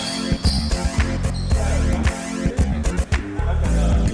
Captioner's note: sneakers squeaking